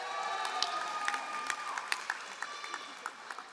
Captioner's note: all applauding